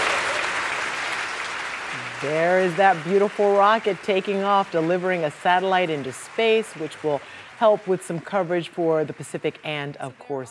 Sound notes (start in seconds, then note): 6.7 applause